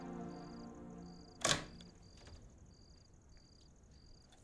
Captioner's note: door opens